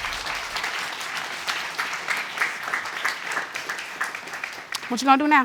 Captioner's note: audience applauds